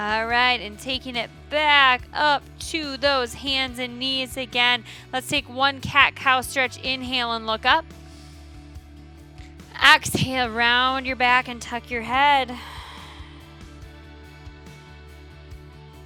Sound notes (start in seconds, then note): 8.1 inhales; 12.6 upbeat music continues